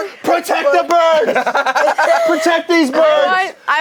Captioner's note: laugh